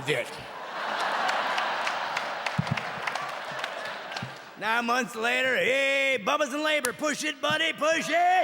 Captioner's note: audience clapping and laughing